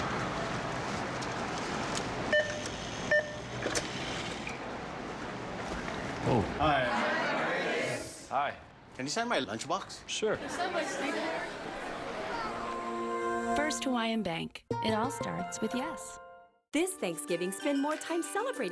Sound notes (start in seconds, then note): 3.0 beep, beep; 6.2 crowd